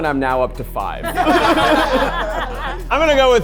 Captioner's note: all laughing